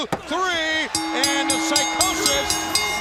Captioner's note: bell ringing